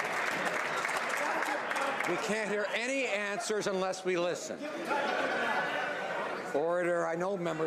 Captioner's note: some Applause